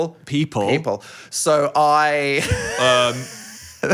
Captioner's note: laughs